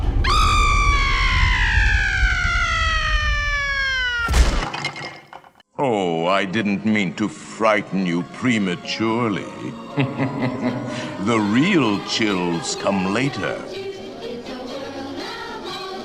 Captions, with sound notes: [SCREAMING] [BONES CLASHING] “Ooh, I didn’t mean to frighten you prematurely, hmm hmm hmm hmm. The real chills come later!”